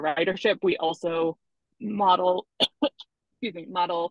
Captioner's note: coughs